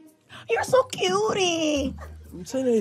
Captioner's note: none